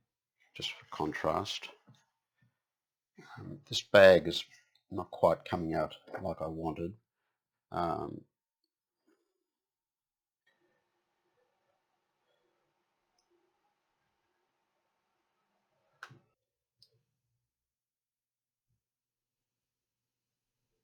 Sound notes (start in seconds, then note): 7.8 silence